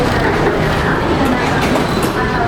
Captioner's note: platform doors locked